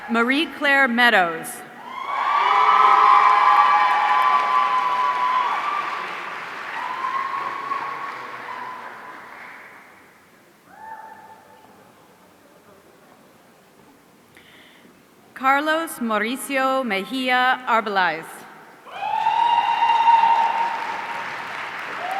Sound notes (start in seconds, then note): 1.8 audience cheering; 18.8 audience cheering